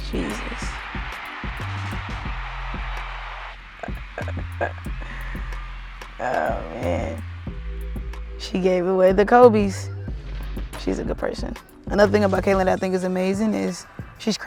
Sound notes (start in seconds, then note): 1.3 crowd cheering; 3.8 Kelsey laughing